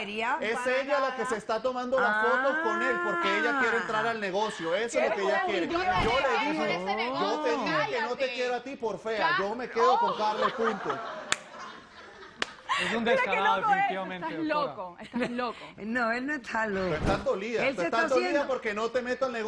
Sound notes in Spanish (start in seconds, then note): 14.0 Risas